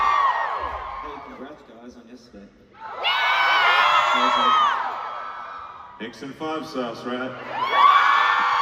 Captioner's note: crowd cheers